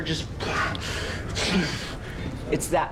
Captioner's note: grunting